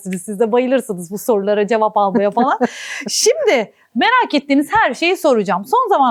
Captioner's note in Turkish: kahkaha